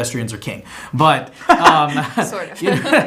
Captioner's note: chuckles